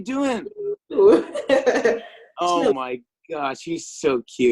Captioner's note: chuckles